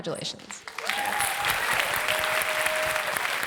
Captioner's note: applause